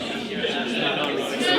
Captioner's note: people chatting